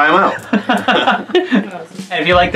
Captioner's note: laughing